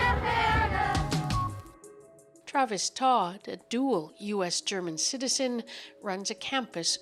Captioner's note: chanting